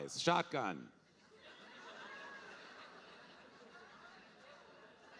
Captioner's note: audience laughing